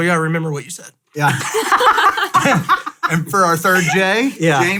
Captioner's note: laughs